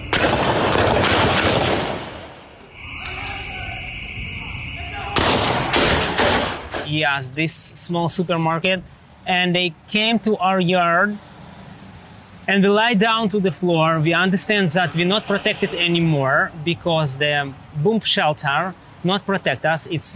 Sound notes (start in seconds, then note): 0.0 guns firing; 4.3 people shouting; 5.1 guns firing